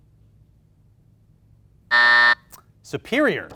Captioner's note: buzzer buzzing